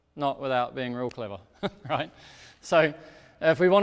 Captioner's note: chuckles